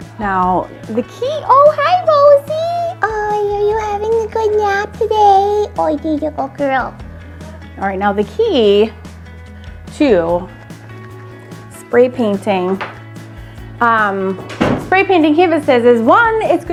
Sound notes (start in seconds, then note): 3.1 baby voice